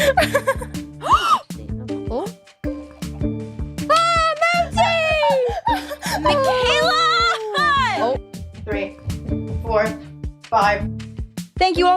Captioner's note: laughter